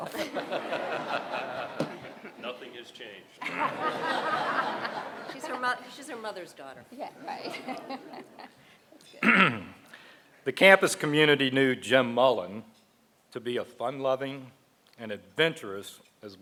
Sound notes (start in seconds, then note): 0.0 laughter; 7.2 laughter